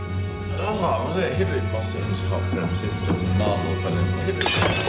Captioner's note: mumbling